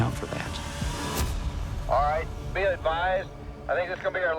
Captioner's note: over walkie